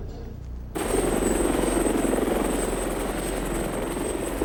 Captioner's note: helicopter buzzing